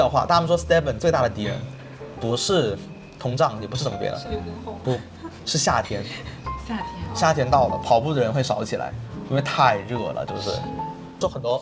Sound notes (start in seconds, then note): 4.7 laughs